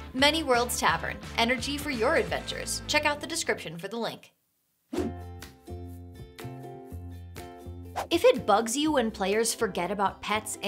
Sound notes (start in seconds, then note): 5.0 air whooshes; 5.0 calm upbeat music